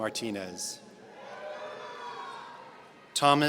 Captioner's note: audience cheering